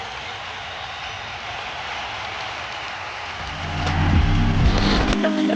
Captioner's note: people cheering